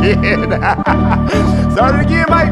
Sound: laughs

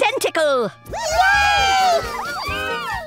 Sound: cheers

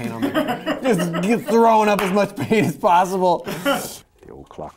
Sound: laughter; laughter

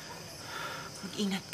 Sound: sighs

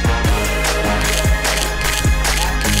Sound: camera clicking

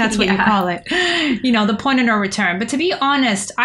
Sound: laughter

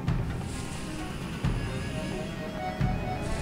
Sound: distant hissing

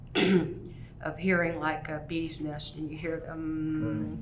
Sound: vocalizes

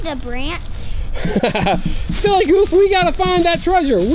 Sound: laughs

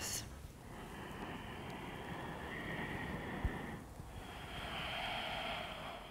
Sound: inhaling and exhaling

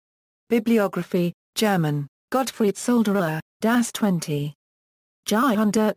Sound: German

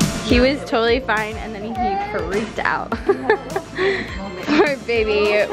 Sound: laughs

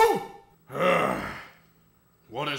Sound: groan

